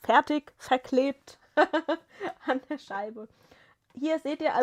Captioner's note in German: gelächter